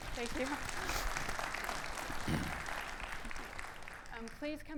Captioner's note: audience applauding